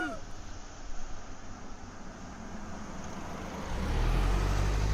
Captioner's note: car driving off